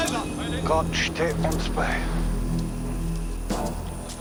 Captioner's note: speaking german